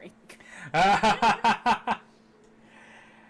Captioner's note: laughing